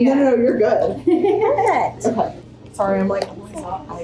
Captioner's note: seller 2 chuckles